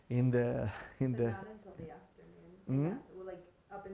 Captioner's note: laughing